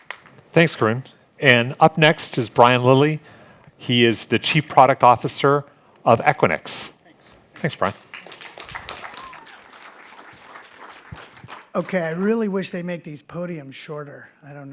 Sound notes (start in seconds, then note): 7.6 applause